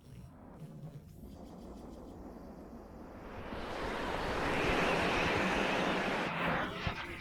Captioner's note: bird chirps - snow blows